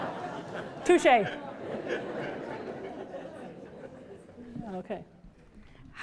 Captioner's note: laughter